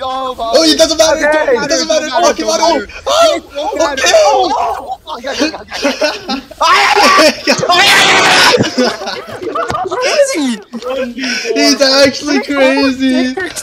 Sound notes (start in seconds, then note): 6.4 gamer war cry; 11.6 laughs